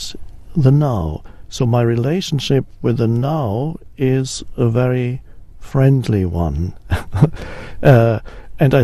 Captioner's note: chuckles